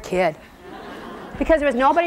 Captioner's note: laughing